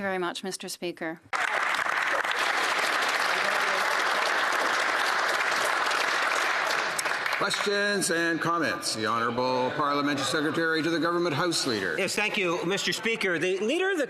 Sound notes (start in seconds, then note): 4.3 speaking French; 7.6 some applause